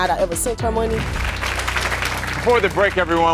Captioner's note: applause